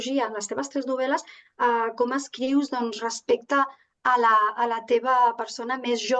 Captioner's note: continues speaking in Catalan